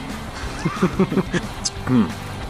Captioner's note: laughing